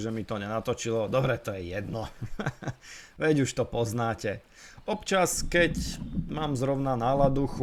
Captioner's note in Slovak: smiech